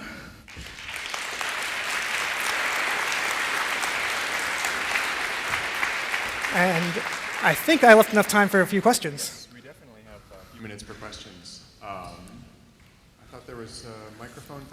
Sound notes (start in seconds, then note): 3.7 applause